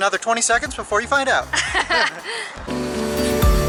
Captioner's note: laughter